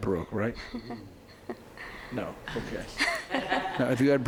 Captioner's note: laughing